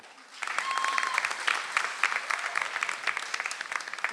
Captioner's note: audience applauds